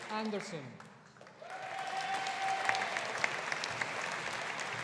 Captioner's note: audience applauding